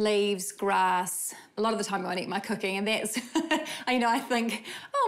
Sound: chuckles

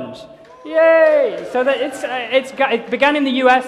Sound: cheering

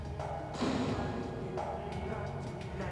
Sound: door closes

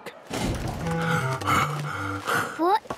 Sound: Daddy Pig panting

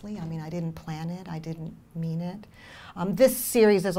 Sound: none

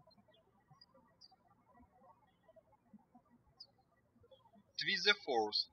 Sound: birds chirping

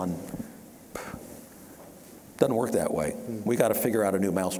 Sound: sharp exhale

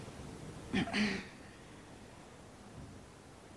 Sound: clears throat

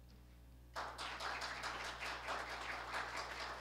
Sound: applause

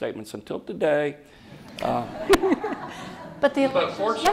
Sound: laughter

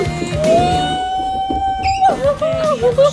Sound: cheering

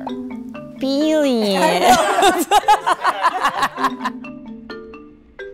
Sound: group laughing

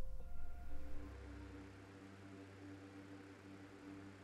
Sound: fans continue to blow

